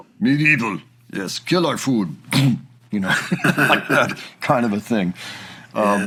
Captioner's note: bonk